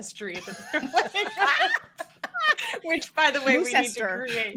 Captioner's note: group laughs